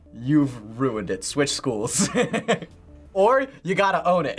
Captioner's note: laughs